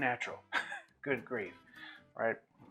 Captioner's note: laughs